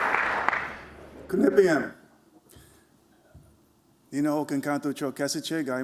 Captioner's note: non-english speech